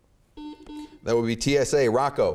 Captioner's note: beeping